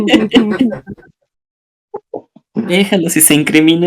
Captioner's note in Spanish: risas